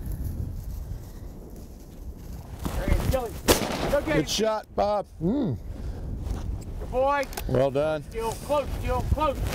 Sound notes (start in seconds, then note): 3.4 gunshots firing